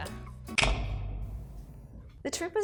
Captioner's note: lights clicking